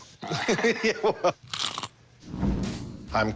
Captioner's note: laughs